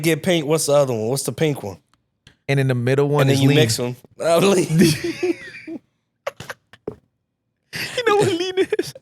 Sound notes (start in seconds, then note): 6.2 laughing